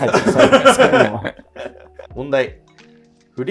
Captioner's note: laughing